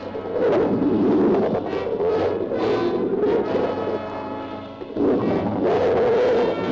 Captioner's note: animals bellowing; dramatic music